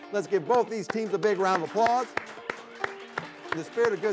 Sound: host and audience clap

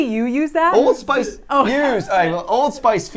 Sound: laughs

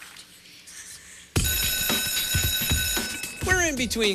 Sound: bell rings

